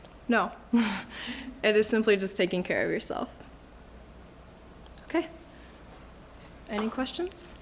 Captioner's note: laughs